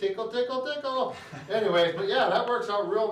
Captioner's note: laughing